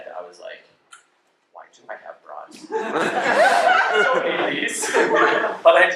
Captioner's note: laughter